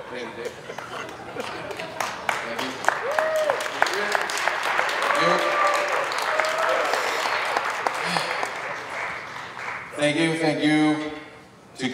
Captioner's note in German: Beifall